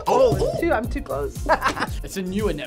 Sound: laughs

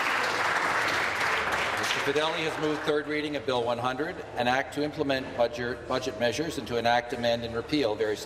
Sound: applause

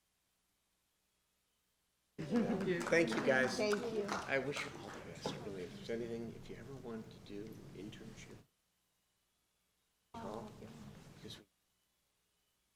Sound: applause

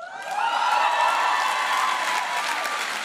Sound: applause

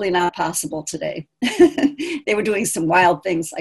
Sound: laughing

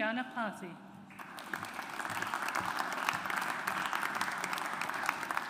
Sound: audience applauds

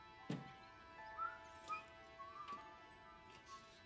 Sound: Tom whistling

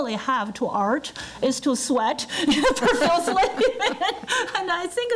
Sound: laughing

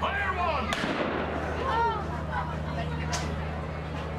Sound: GUNSHOT sound from Columbia

